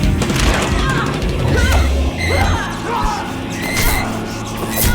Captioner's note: grunting